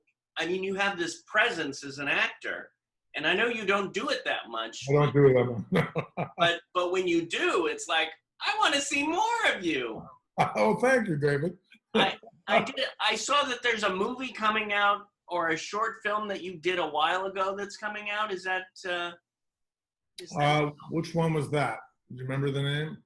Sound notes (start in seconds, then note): 5.4 laughing